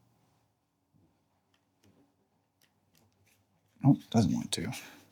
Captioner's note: silence